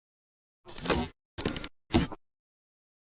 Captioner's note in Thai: เสียงเอฟเฟกต์